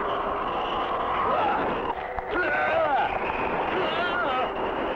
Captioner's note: groaning